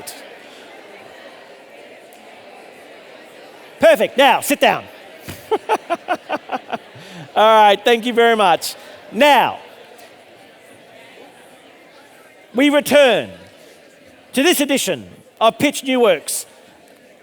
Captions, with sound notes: All right, perfect. Now sit down. All right, thank you very much. (audience chattering) Now we return to this edition of Pitch New Works